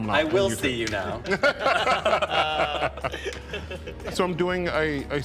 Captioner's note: all chuckling